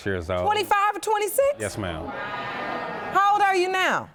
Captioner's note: audience gasps